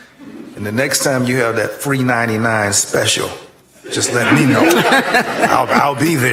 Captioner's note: laughter